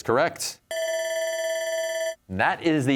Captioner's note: bell ringing